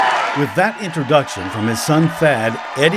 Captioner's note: applause